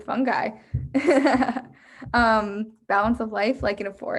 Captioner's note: chuckles